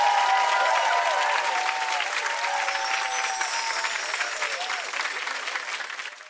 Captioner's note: audience cheering and clapping; audience cheering and clapping continues